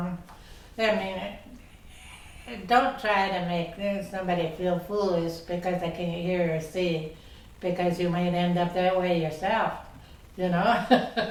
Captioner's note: laughs